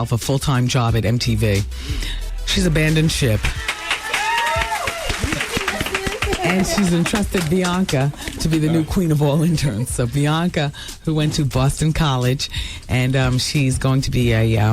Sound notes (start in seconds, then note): 3.2 crowd cheering